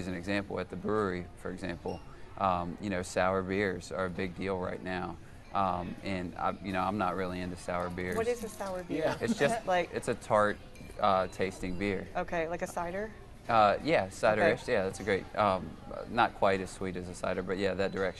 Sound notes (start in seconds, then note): 9.0 laughs